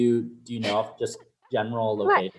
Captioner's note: laughs